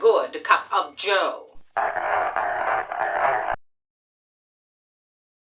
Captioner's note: winding record player